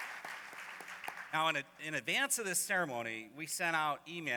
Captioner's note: applause